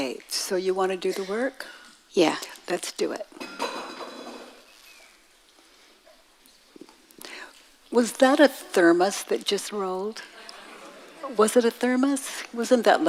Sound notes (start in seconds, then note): 3.4 metal clanging; 10.2 audience laughing